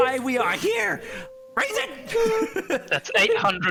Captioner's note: excited giggles